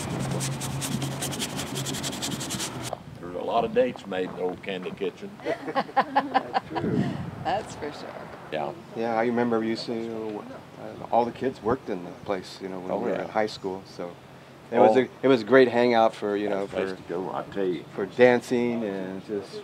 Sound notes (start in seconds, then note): 5.4 laughing